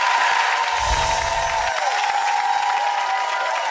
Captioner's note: applause; chimes